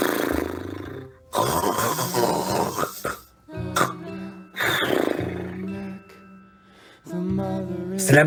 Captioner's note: heavy snoring